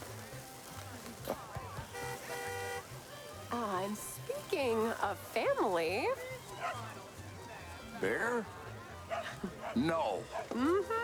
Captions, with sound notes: [horn honks] Ah, and speaking of family. [barks] - Bear? - [barking continues] - No! - Mm-hmm.